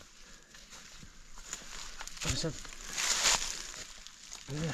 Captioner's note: leaves crunching